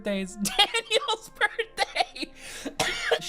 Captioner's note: laughs